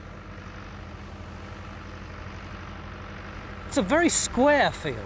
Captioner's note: excavator engine revs